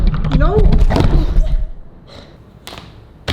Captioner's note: camera thuds